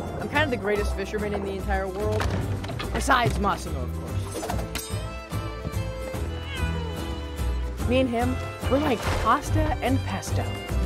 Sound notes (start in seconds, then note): 6.3 cat meows